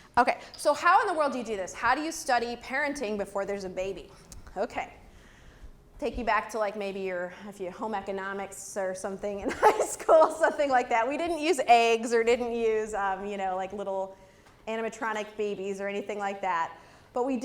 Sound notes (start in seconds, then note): 9.4 laugh